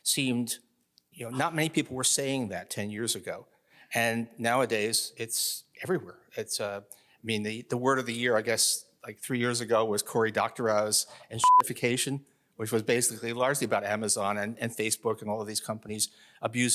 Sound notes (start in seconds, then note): 11.4 beep